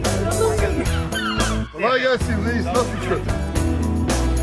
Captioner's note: seagulls squawking